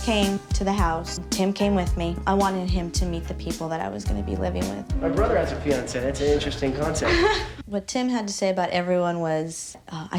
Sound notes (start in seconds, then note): 6.8 giggles